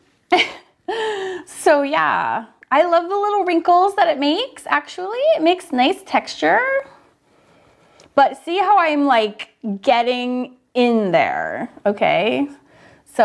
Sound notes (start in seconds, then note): 0.2 laughs